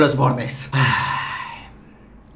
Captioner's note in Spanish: Suspiro